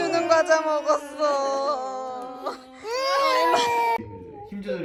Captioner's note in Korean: 폭풍 오열